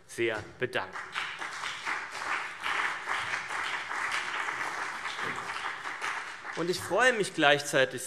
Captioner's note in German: Beifall CDU und BÜNDNIS 90/DIE GRÜNEN